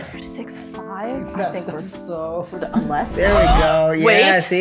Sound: gasps

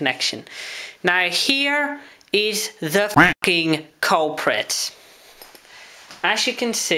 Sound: quack

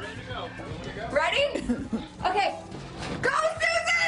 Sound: laughter

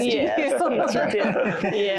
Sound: giggling

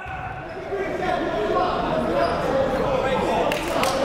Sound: shouting

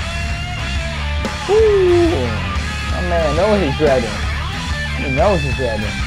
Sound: soft scream; background music drowns the speaker's voice

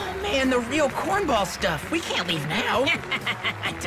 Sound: cackles

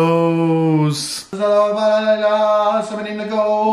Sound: mumbles

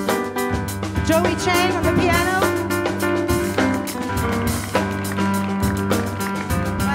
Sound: audience claps

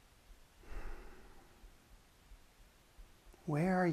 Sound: sighs

